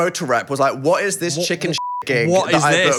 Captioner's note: beep